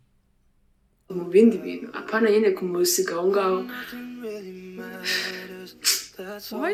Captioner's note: deep sigh